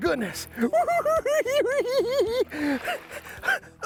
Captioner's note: cackling